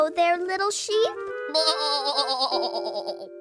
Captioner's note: sad bleating